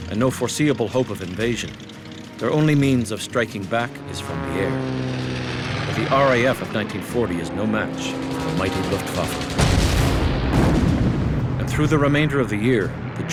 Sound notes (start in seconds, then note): 4.7 plane engine roaring; 8.3 planes engines roaring; 9.4 plane explodes